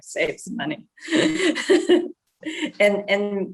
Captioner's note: laughing